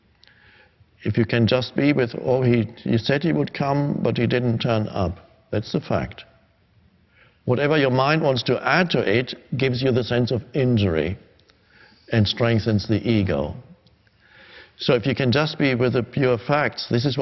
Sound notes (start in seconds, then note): none